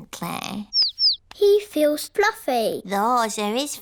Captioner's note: chirping